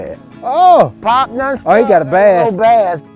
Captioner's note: man shouts